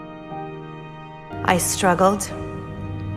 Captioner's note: voiceover